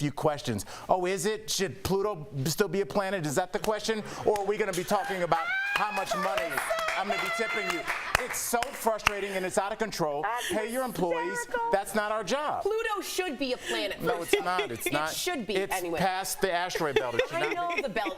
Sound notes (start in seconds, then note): 11.5 laughter